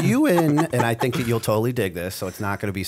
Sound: laughter

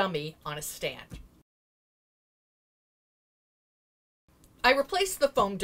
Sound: no Sound Present

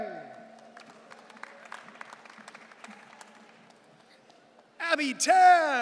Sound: audience cheering

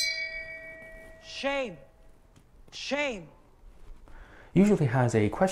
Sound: bell ringing

